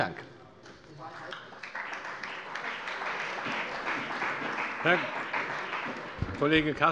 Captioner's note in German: Beifall bei der CDU und dem BÜNDNIS 90/DIE GRÜNEN